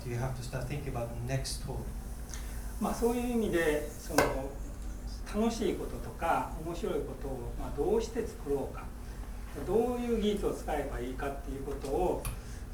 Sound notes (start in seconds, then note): 2.9 speaking in foreign language; 4.3 tapping